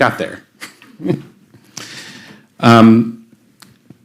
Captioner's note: chuckles